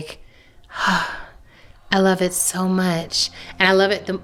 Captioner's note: sighs